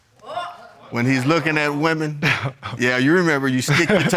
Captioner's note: chuckles